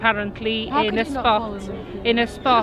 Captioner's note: laughs